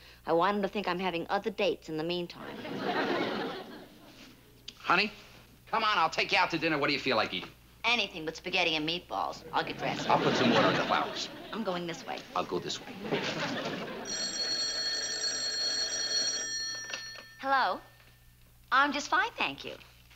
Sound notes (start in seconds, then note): 14.0 ringing